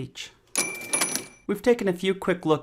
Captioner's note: cash register